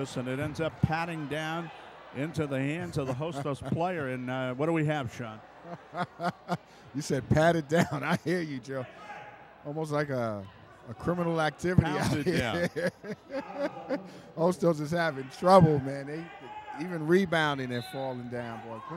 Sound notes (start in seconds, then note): 5.7 laughs